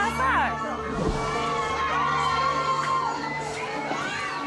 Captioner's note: shouting